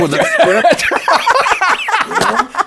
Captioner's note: laughter